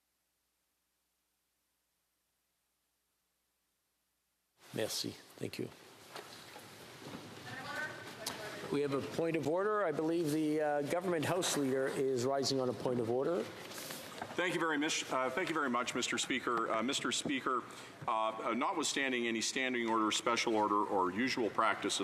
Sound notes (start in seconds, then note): 1.4 moment of silence